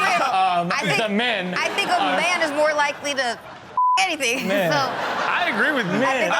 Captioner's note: beep